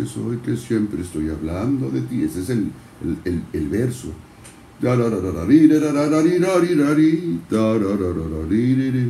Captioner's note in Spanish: tarareo